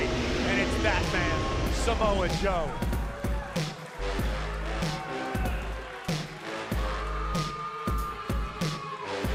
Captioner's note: crowd cheering